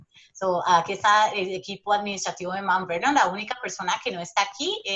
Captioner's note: speaking Spanish